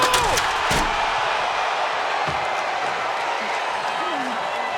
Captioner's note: crowd cheers